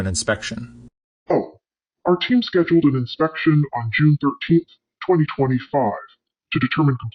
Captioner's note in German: verzerrt